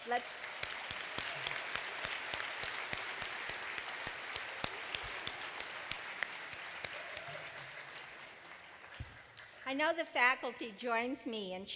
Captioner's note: cheers and applause